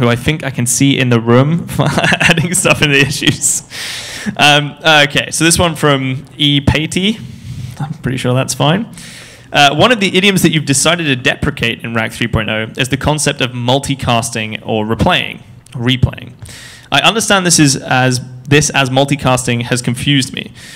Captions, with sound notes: who I think I can see in the room adding stuff in issues. (laughs) So this one's form E. Patey, one of the idioms that you've decided to deprecate in RAC 3.0 is the concept of multicasting or replaying. I understand this as multicasting has confused me.